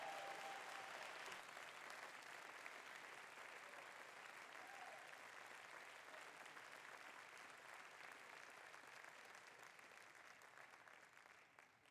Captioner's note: applause